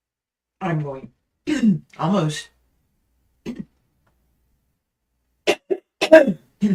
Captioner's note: coughs